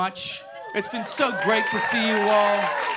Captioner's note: crowd cheering